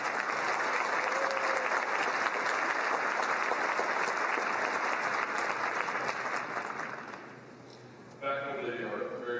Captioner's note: applause